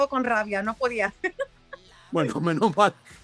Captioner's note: laugh